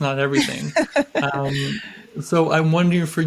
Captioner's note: laughs